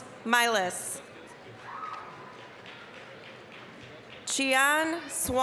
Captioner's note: applause